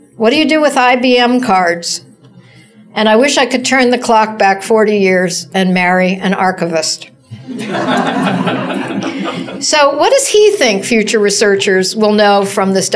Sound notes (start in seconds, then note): 7.3 laughter